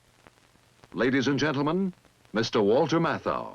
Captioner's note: voiceover